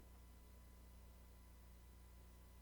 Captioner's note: none